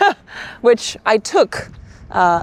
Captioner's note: person laughing